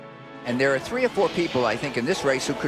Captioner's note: voiceover